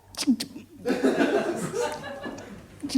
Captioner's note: stutters